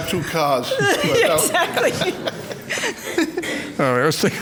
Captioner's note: laughs